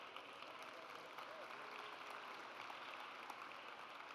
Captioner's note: audience applauds